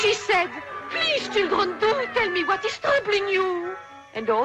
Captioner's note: children crying